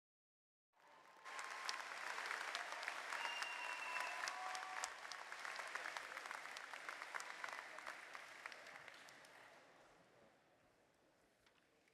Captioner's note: cheers and applause